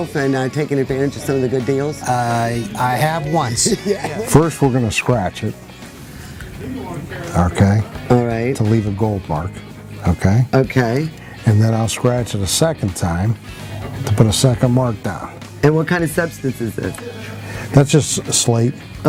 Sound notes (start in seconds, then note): 3.2 both laugh